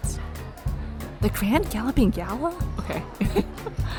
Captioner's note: laughs